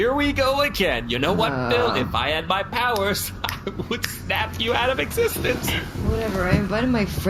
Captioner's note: snapping